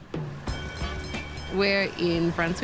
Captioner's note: tram bell dings